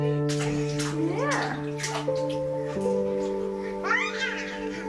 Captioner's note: gentle music; water splashes; screams